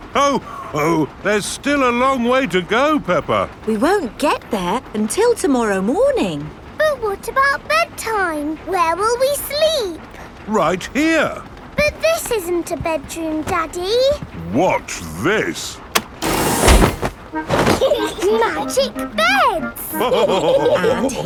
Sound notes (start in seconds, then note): 17.6 laughing; 19.9 all laughing